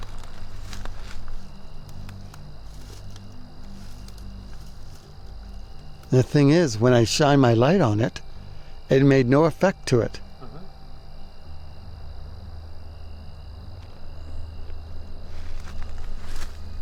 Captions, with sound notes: [rustling leaves] [rustling leaves] - The thing is, when I shined my light on it, it made no effect to it. - Uh-huh. [bug noise] [rustling leaves]